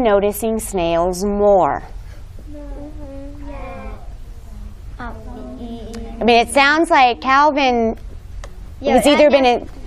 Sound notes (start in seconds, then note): 2.0 students responding